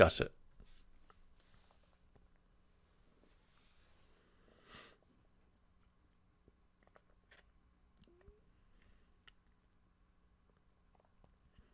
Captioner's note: pause